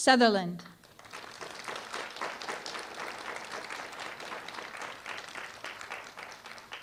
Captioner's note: applause